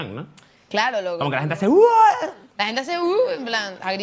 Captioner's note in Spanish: grita